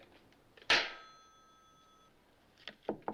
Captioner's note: slams